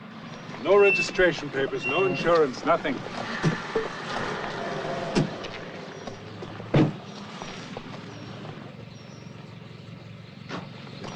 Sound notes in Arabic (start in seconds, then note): 6.9 طرقات الباب